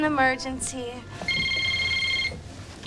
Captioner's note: ringing continues